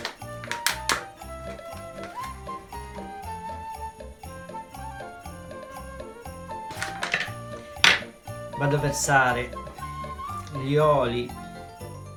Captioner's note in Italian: Applauso